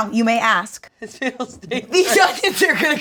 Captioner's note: laughs